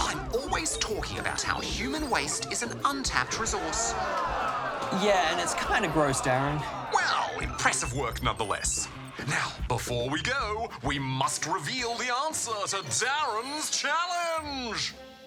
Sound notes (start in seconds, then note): 2.5 audience groans